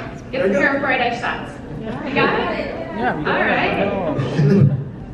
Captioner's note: audience murmuring